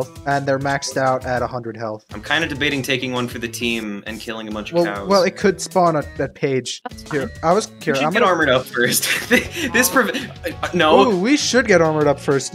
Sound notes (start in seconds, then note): 9.4 wheezes